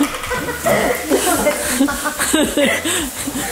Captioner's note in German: lacht